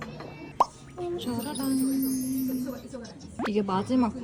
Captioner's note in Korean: 쫘라란